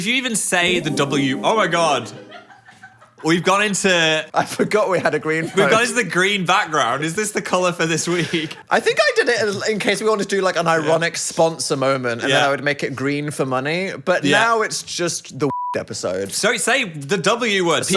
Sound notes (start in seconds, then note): 15.5 beep